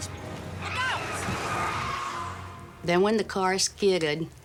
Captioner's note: tires squealing